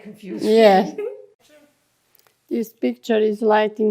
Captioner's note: laughing